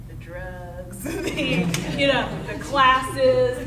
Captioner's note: audience laughing